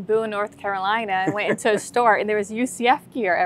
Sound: laughing

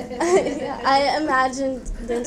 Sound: laughs

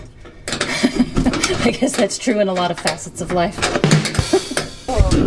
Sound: laughing

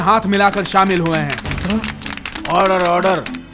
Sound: clapping

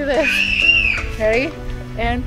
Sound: screaming

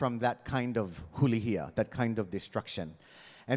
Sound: speaking in Hawaiian

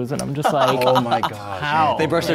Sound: laughing

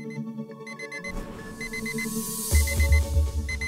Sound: alarm sounds

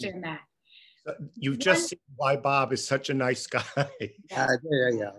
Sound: laughs

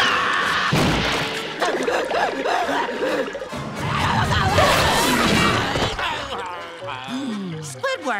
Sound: screaming; groaning

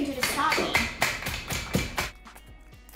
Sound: counter pounding; cookies crunching

